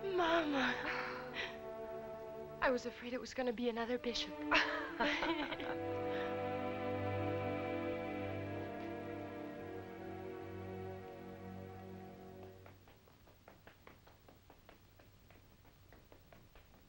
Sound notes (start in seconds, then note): 4.5 both laughing